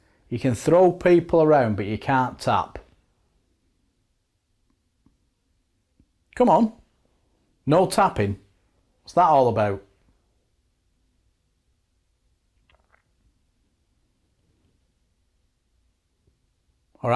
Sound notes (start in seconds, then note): 2.8 silence; 9.7 silence